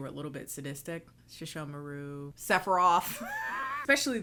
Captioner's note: laughs